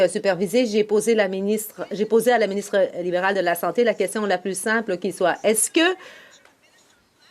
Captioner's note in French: voix de l'interprète